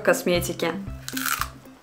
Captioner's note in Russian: хрум